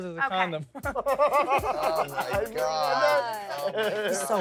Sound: laughs

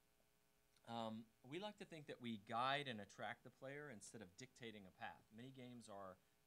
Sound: none

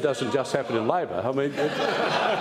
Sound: laughter

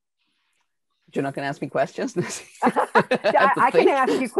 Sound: laughing

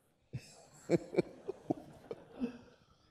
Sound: laughing

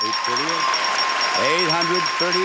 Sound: bell rings

